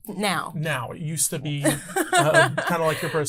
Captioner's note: laughs